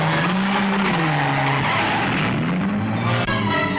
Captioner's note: engines roaring; suspenseful music